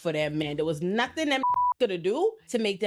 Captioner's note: beep